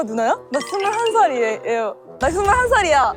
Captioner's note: flustered accent